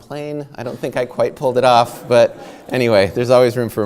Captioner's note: audience laughing